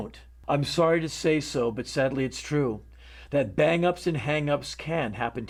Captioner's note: none